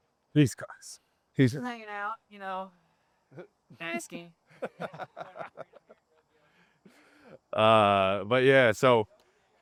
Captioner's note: laughing